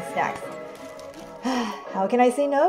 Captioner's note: exhaling heavily